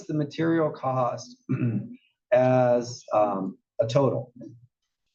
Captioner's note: cough